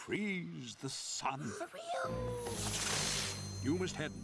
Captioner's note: gasps